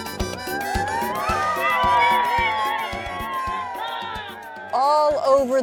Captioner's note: children applauding